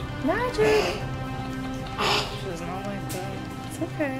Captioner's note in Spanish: Chasquea la lengua